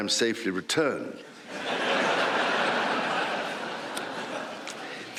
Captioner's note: laughter